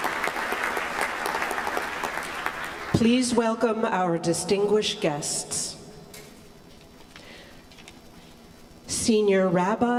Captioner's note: applause